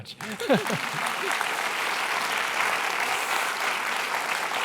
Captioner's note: audience applauding